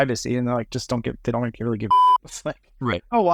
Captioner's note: beep